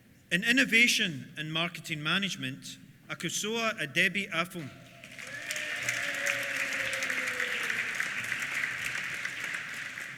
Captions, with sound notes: In Innovation and Marketing Management, Akosua Adebi Afum. (CHEERS) (APPLAUSE)